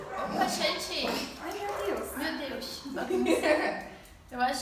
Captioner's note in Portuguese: risos